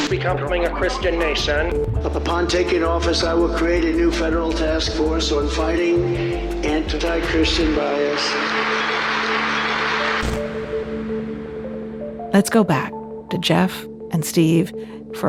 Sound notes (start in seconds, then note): 7.3 crow applauding; 8.5 soft upbeat music